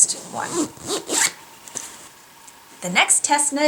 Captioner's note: zips up project bag